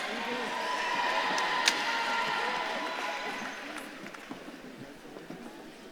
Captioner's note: audience claps and cheers